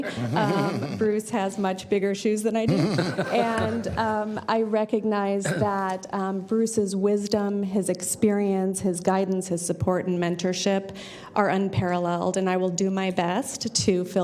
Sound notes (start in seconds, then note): 2.6 laughter